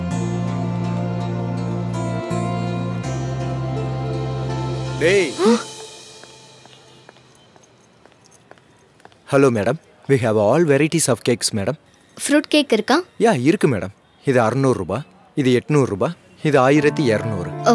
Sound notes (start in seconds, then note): 5.3 foot steps aproaching